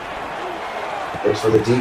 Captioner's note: crowd Noises